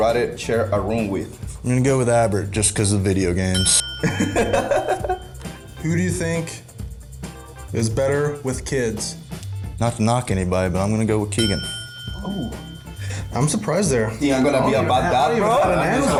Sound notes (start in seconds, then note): 3.5 ding; 4.1 laughs